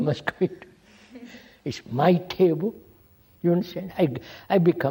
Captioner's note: laughs